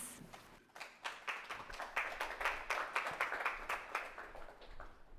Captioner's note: audience clapping